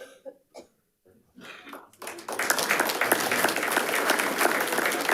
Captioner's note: audience applauding